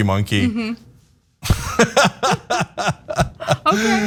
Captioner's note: laugh